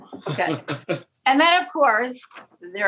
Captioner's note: laughing